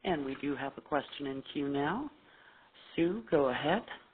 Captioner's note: voiceover